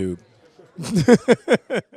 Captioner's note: laughing